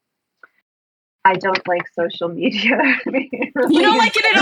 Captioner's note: laughs